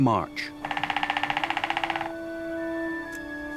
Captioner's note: pecking